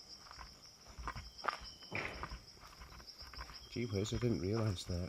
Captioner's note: footsteps thudding